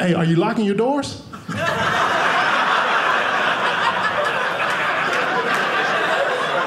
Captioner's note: audience laughing